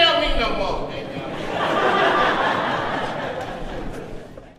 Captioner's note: audience laughs